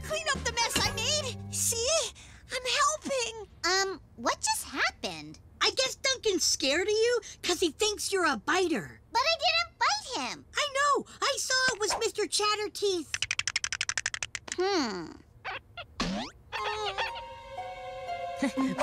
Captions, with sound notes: Here, I'll clean up the mess I made. See? I'm helping. - Um... what just happened? - I guess Duncan's scared of you 'cause he thinks you're a biter. - But I didn't bite him. - I know. I saw it was Mr. ChatterTeeth. (Teeth chomp) - Hmm? (Worried groan)